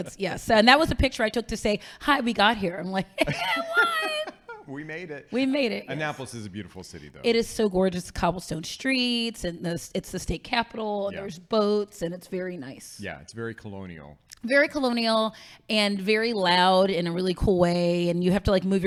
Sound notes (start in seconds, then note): 3.1 laughing